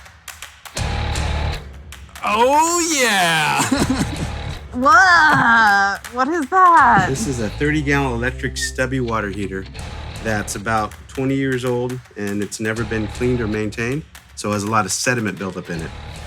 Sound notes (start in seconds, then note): 0.9 rock music; 2.3 laughs; 6.8 heaves